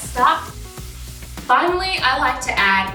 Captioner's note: pan sizzling